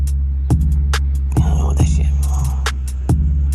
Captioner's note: disappointed giberrish